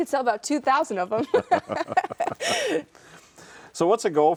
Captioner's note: both laughing